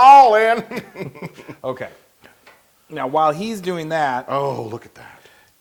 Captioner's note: laugh